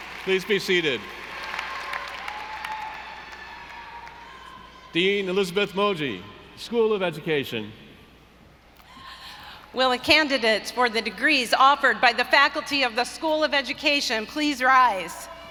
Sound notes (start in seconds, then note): 0.0 audience applauding; 0.0 audience cheering